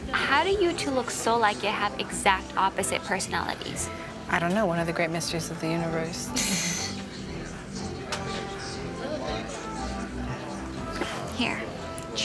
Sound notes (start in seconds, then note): 6.4 Kaylee chuckles